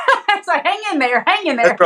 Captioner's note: laugh